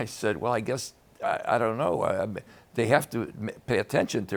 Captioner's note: none